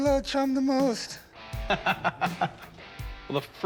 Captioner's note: laughs